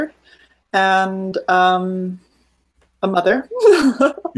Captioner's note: laughing